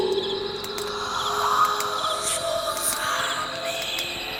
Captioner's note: fire Crackling Continues